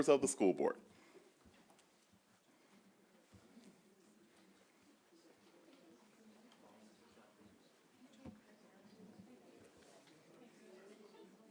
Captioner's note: background talking